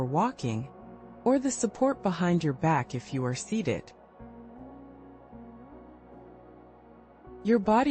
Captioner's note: pause